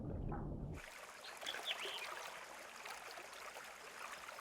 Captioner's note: water trickling